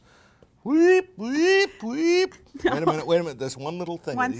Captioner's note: mimics alarm